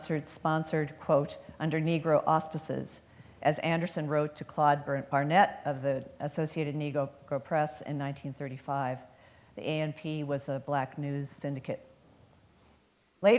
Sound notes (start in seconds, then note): none